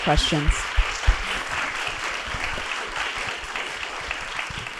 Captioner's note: applause